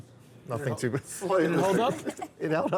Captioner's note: laugh